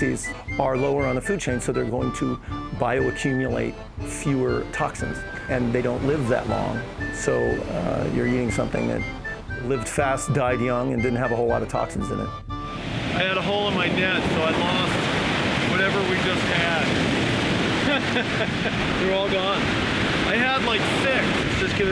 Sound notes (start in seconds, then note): 17.6 laughs